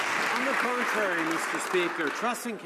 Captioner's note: some Applause